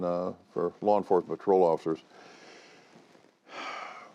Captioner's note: sighs